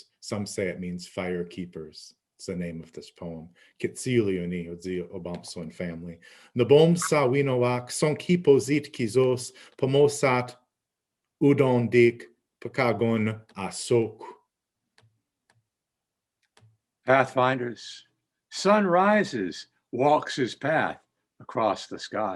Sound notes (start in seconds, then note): 4.0 speaking Abenaki